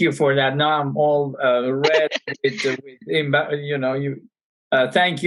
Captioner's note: laughter